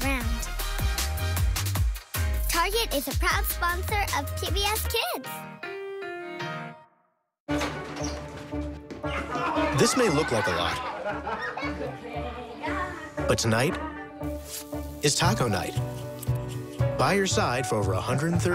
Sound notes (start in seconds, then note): 9.1 laughter